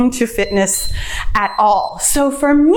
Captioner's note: timer beeps